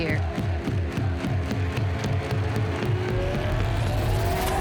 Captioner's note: people chanting